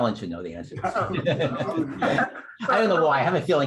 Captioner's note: laughter